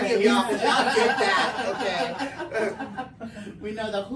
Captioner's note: everyone laughing